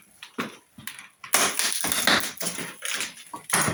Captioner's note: wood splitting